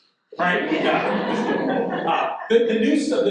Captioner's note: audience laughing